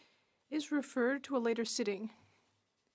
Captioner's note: speaking French